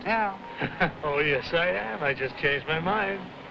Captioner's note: guy chuckling